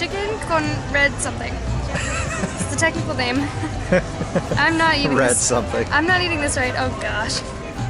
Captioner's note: laughter